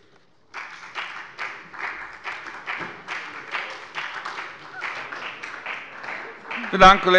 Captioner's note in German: Beifall bei der FDP und bei Abgeordneten der SPD